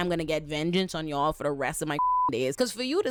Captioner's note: beep